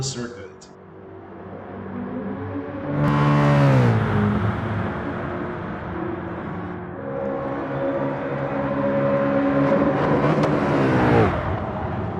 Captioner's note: engines revving, cars noises